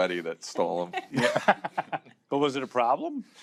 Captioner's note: laughter